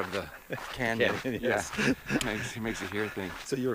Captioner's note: laughs